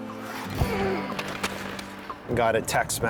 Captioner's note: skates scraping